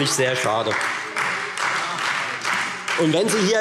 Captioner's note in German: Beifall Freie Demokraten und SPD